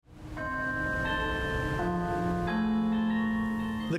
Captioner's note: bell ringing